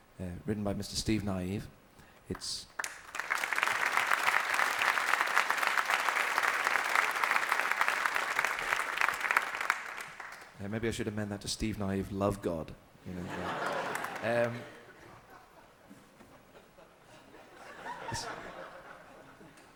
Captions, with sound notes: uh, written by Mr. Steve Nieve. It's... (AUDIENCE APPLAUDING) Maybe I should amend that to Steve Nieve Love God. (AUDIENCE LAUGHING) Um... (AUDIENCE CHUCKLING)